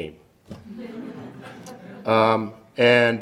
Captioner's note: audience laughs